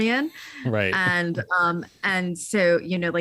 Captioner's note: laughs